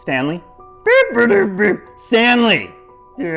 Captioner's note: goofy moaning